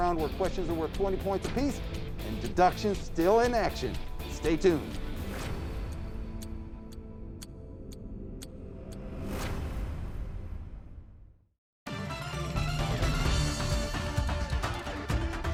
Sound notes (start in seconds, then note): 5.6 clock ticks; 5.7 intense music; 11.8 energetic music